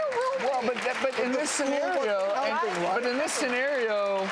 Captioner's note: audience applauds